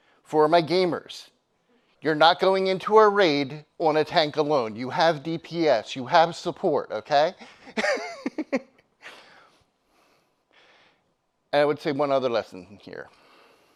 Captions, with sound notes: For my gamers, you're not going into a raid on a tank alone. You have DPS. You have support, okay? (laughs) And I would say one other lesson here.